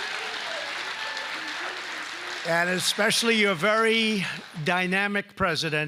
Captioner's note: applause